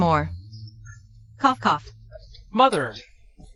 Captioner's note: cough cough